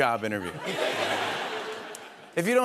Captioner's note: laughter